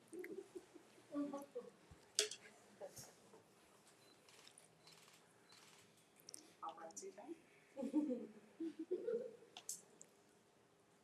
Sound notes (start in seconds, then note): 4.8 camera shutters